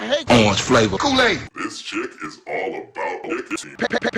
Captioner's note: low-pitched